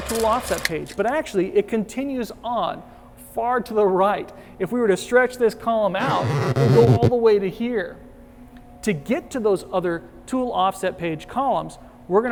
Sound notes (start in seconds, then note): 6.0 stretch sound